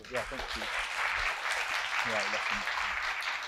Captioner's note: audience applauds